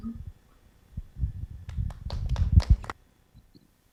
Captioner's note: clapping